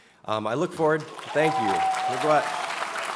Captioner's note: audience cheers